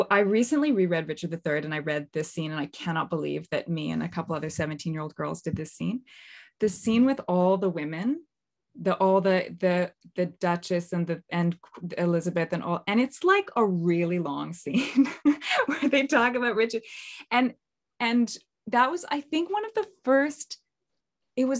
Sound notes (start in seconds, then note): 15.3 laughs